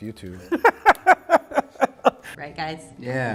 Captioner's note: laughter